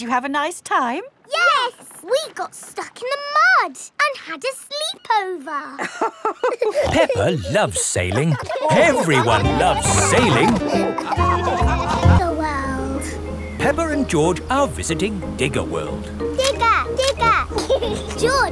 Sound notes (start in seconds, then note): 5.7 both laughing; 11.4 all laughing; 16.4 laughs